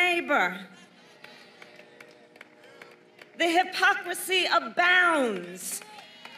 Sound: applause

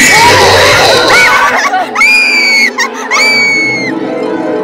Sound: screaming

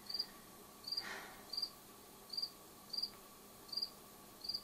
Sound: takes a deep breath

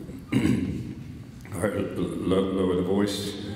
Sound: clears throat

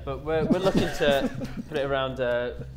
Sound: Sidemen laughing

